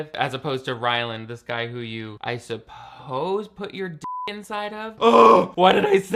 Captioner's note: beep